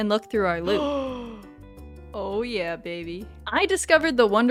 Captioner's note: gasp